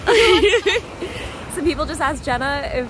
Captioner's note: both laugh